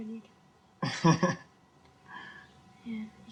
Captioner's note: cameraman laughing